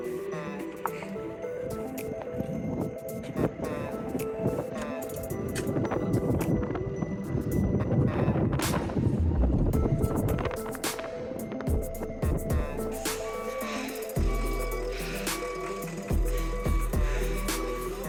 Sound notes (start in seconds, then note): 7.2 wind blowing